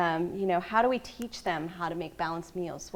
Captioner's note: none